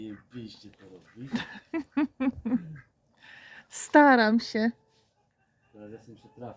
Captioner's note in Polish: śmiech